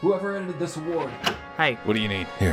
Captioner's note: door opens